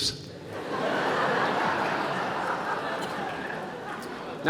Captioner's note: laughter